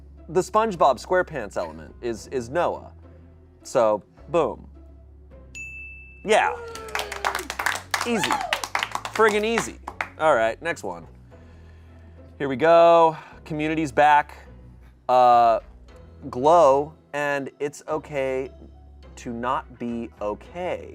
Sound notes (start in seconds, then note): 5.5 bell dings; 6.5 audience applauding